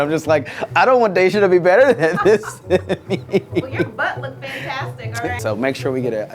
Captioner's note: laughing